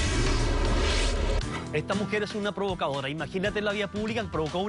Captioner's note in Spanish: none